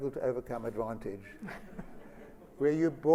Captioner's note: laughter